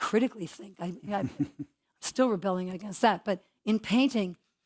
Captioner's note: laugh